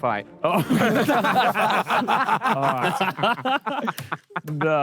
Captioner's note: Sidemen laugh